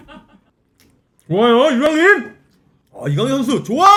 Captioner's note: munching